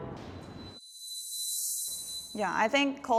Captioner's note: pitch whirring